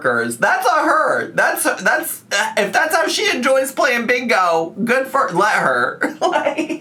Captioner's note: laughs